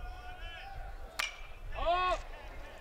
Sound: ball hitting bat

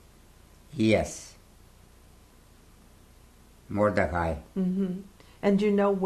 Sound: pauses for 3 seconds

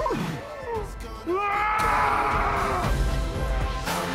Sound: roars

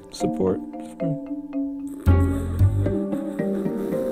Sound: snoring

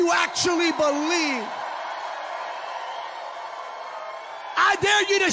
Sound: congregants cheering

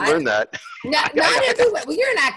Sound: laughs

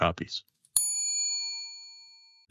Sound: bell dings

